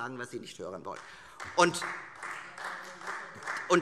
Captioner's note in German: Beifall Freie Demokraten